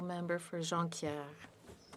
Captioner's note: speaking French